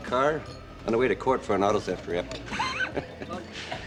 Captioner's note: laughs